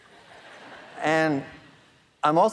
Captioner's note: audience laughing